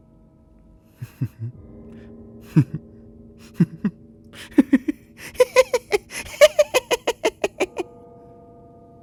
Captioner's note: bizzare laughter